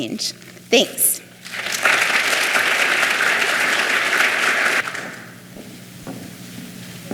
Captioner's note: clapping